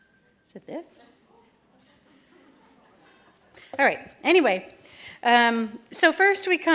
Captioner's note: laughter